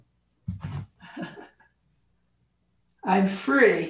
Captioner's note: laughs